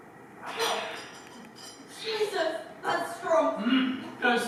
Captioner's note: coughs